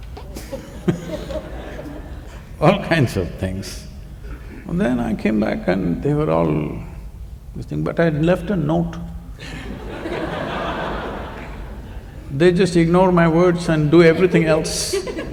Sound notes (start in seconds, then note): 9.4 laughter